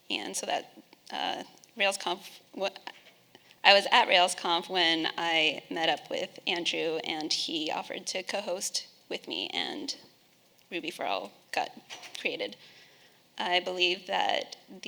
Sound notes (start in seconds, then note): none